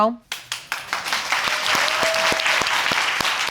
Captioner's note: applause